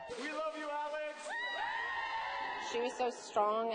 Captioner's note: cheering